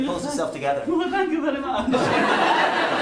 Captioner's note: giggling